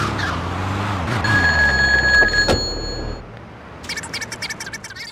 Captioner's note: telephone ringing